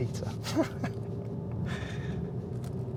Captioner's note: laughs